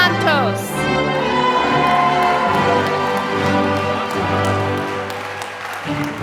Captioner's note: applause